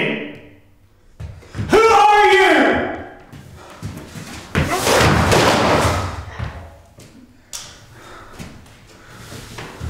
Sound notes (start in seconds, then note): 4.9 yells; 7.1 breathes heavily